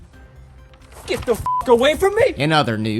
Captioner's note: beep